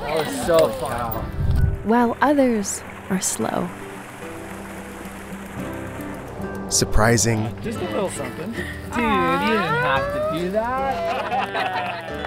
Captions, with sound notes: (friends cheering) - While others are slow. (water whooshing) - Surprising. (friends chatting and laughing)